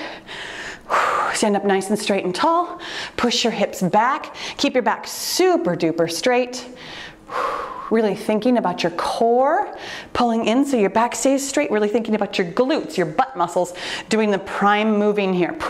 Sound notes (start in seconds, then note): 0.0 exhales